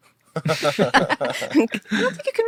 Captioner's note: group laughing